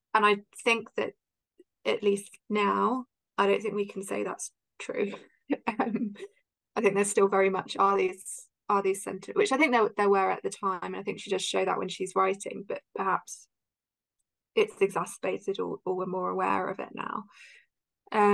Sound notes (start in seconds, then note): 6.2 laughs